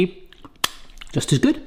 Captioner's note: smacks lips